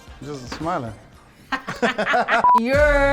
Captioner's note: both laugh